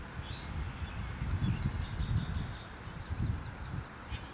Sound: birds chirping

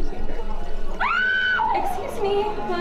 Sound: scream

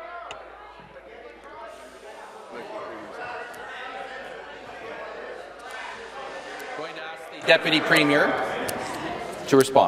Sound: conversation din

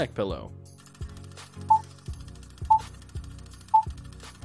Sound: beeping

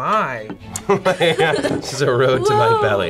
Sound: laughs

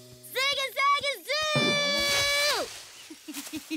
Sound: giggling

